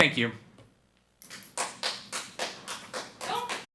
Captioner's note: people clapping